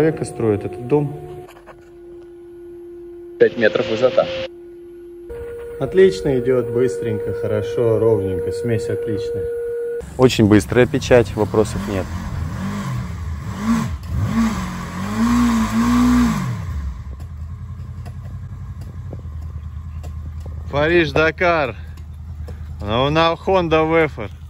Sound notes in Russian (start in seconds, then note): 12.0 шум мотора